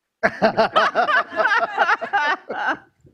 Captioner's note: laughing